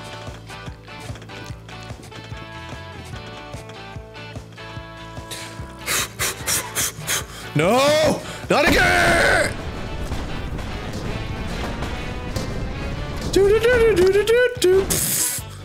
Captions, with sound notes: (loud repeated exhaling) noooo! not agai-! do do do do do do do do pllllhhh